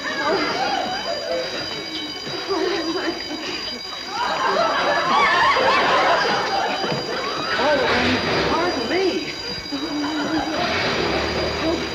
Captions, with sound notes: (audience laughing) - Oh, pardon me.